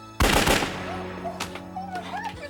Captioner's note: gunshots